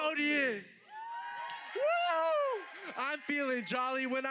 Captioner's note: audience applauding